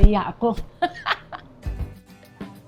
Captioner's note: laughs